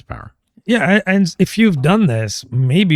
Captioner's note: uh